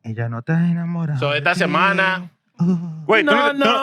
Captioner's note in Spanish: Hablando en idioma extranjero